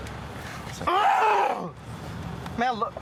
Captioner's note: groaning